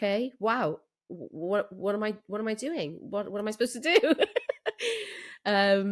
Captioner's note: laughs